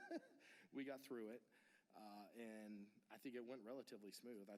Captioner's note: laughter